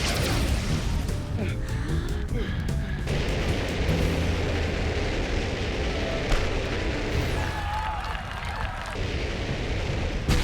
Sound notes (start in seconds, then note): 1.2 panting; 3.6 rockets hissing; 7.1 cheers and applause